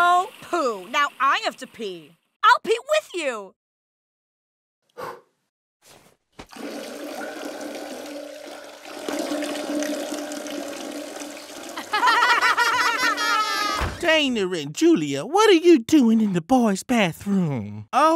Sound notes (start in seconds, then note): 5.0 blowing breath; 6.6 urinating; 11.8 laughing